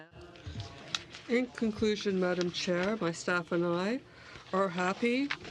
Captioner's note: speaking french